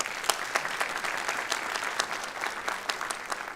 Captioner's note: applause